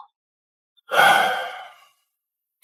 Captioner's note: sigh